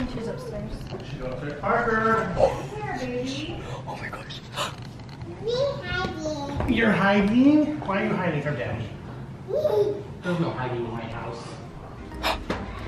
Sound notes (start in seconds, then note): 9.8 giggles